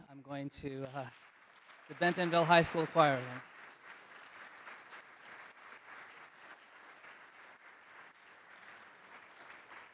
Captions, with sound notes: I'm going to, (audience applauding) the Bentonville High School Choir. (audience applauding)